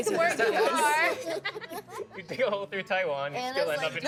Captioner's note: all laughing